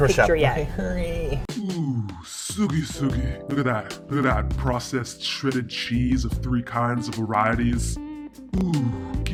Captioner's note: deep manly voiceover